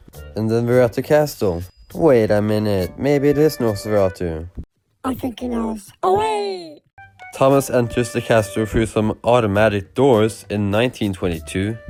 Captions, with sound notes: And then they're at the castle. Wait a minute, maybe it is Nosferatu. (high pitched voice) I think he knows, AWAY! Thomas enters the castle through some automatic doors, in 1922?